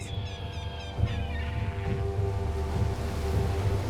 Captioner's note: seagulls squawking